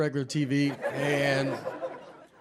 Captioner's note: audience laughs